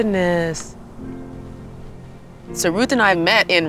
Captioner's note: gentle music; wind blowing